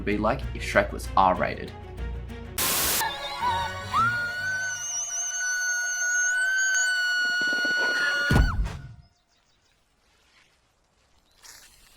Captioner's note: cheering